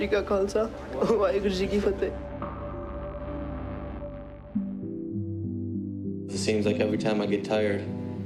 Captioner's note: speaking foreign language